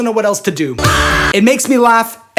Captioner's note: screams